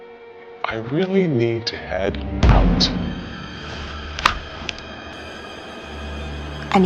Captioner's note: hands slapping table